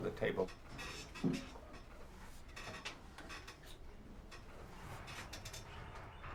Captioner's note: table Creaks